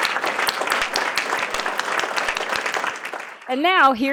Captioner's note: applause